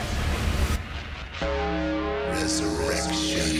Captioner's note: bell tolling